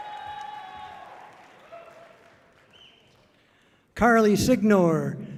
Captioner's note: audience cheering loudly